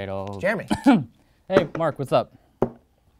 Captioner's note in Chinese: 咳嗽